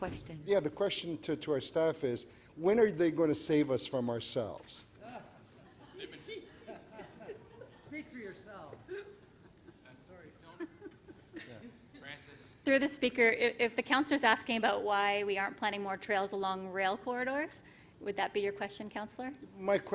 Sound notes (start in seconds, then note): 5.0 laughter